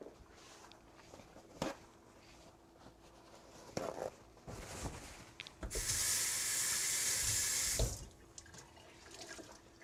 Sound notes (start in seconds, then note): 0.9 ripping paper towels; 5.7 running the sink